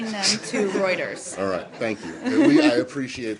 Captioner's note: laughter